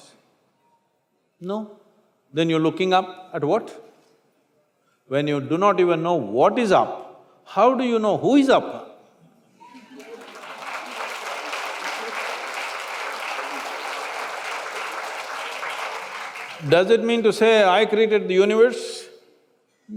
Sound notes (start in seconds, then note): 12.6 applause; 13.9 few laugh